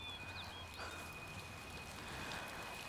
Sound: rain pattering

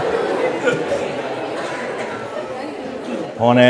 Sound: laughter

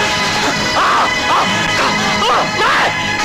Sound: screams

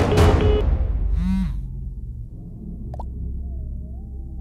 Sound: phone vibrates

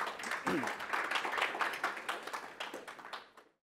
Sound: audience applause

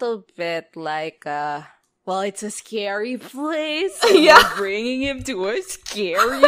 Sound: mocking voice; laughs; laughs

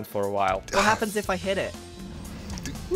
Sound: dragon roars

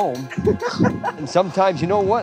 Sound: laughs

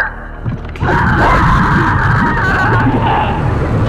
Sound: scream

